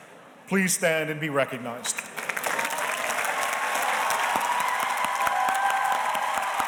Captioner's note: audience cheers and applauds